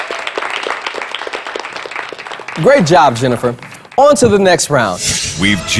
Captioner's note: clapping